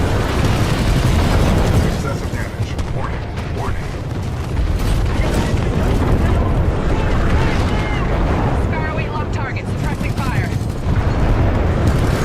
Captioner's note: battle with Gun Fire and Radio Chatter